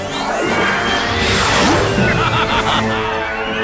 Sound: laughing

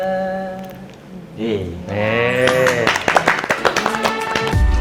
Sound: applause

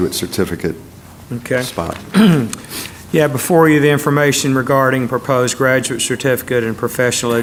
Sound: cough

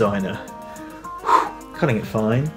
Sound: blowing

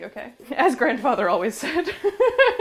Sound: laughs

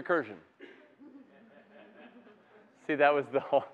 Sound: laughter

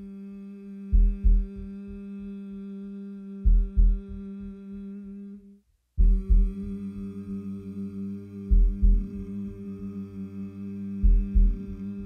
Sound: heart beats and collective humming in harmony

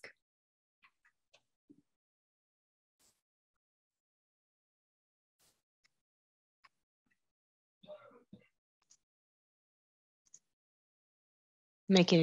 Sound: silence

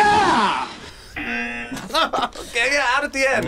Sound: buzzer; laughs

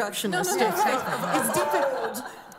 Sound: laughter

